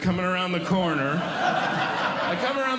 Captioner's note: audience Laughing